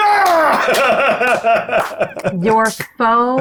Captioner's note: palms clapping; laughs; chuckling